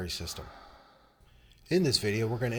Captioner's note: patient breathing